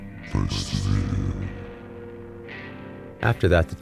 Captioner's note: βαθιά φωνή